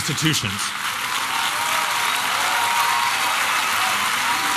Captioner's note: applause and cheering